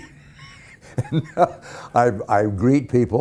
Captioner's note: laughing